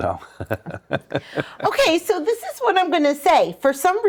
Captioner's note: laughs